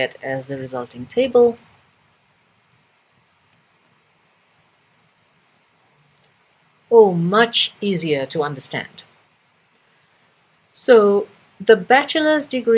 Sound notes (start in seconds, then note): 3.2 pause